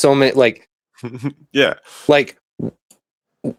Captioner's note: laughs